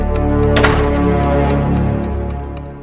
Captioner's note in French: Claquement de porte